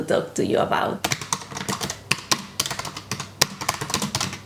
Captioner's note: typing